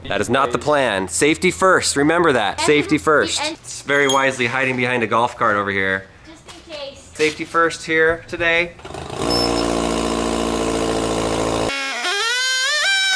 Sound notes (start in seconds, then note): 8.8 press buzzes